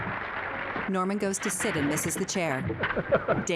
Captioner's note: chair clattering; Danny chuckling